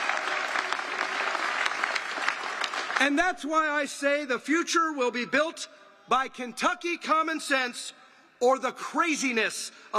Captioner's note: applause